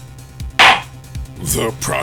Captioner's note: gavel slams!